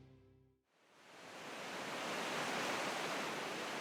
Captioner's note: waves brushing shore